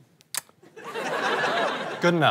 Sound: kiss

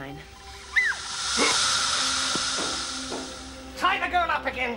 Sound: shrieking

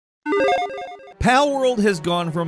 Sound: digital tones

